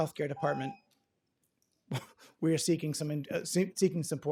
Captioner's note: ringing bell